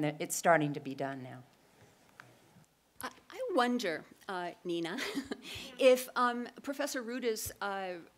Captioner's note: laugh